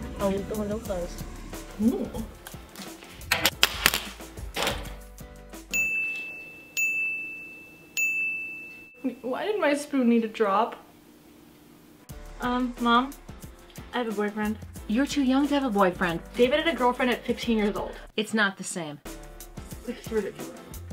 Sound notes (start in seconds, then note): 3.6 spoon clatters; 5.7 timer dings 3 times